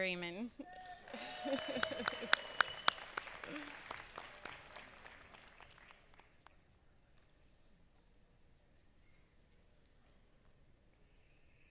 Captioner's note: applause